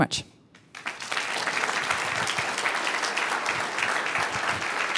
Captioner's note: applause